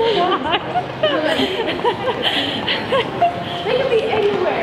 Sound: laughs

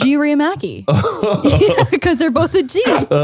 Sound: laughs

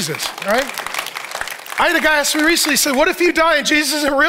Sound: congregation applauding

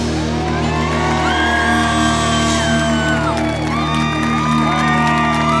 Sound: audience cheering and applauding

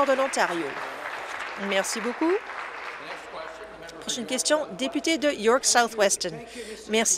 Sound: applause

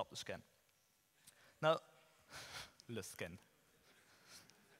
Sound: chuckles

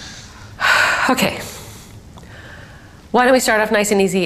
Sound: sighs

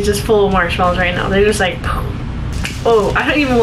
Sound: exploding sound effect

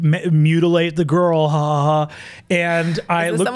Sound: imitates laughter

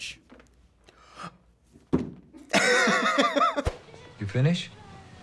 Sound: gasps and laughs

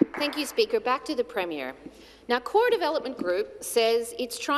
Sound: some Applause

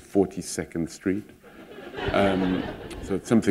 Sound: laughter

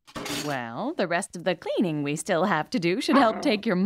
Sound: panting

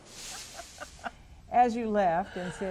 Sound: laughing

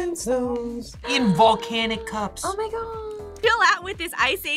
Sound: gasps

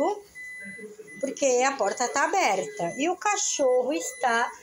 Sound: dog owner speaking in foreign language; fridge beeping

